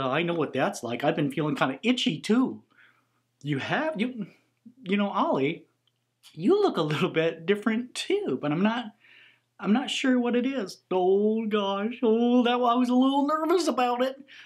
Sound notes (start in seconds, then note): none